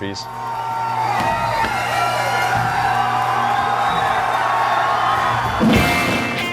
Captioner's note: audience cheering; ♫ bagpipes and drums; ♫ electric guitars